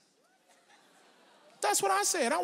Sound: audience laughs

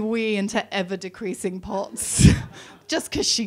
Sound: laughs

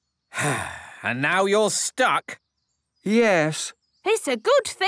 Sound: sigh

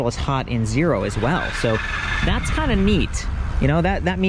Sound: bike rattling

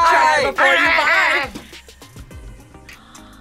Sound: grumbles

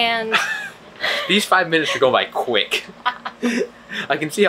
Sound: both laughing; laughs

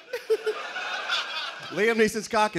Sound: laughter

